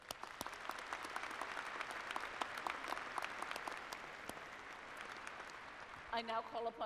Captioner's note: applause